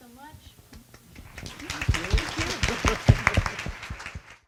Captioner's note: clapping